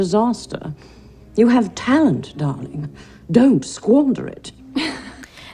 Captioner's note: laughs nervously